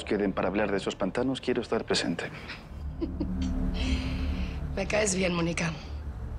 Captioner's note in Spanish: Risas